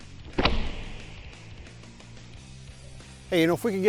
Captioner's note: shot fired